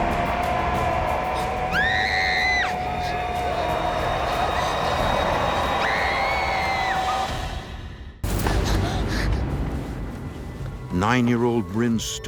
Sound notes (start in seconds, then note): 0.0 Reenactment Bryn screams; 7.3 eerie music; 8.4 Reenactment Bryn panting